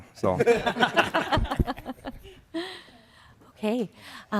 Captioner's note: laughter